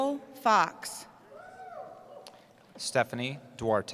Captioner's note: cheering